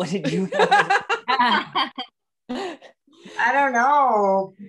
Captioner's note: laughing